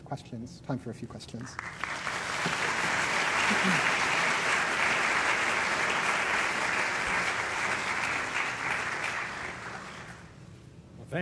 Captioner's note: applause